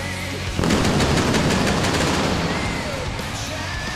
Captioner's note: pyro bangs